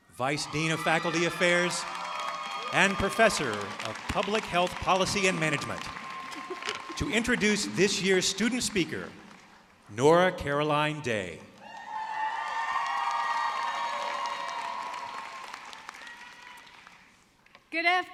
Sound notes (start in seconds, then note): 11.6 audience cheering